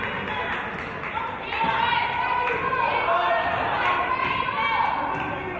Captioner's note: players and audience yelling